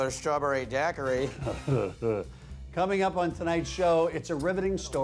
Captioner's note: laughs